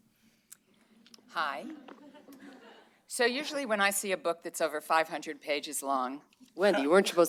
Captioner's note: laughter